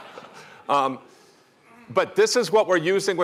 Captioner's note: laughter